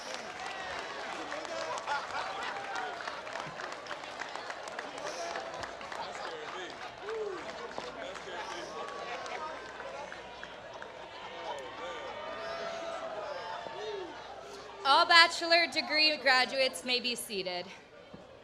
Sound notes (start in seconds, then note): 15.6 applause